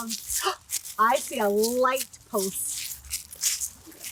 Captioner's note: gasps